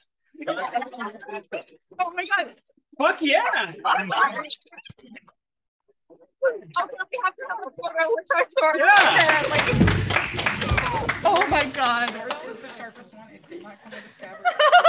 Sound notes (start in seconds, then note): 8.9 AUDIENCE applauds